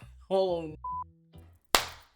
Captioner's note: beep